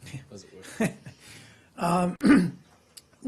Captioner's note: laughter